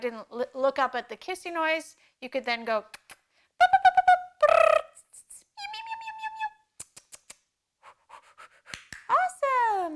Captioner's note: makes an array of high pitched noises